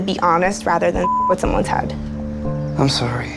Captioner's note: beep